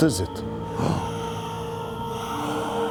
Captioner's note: spooky toothy whispers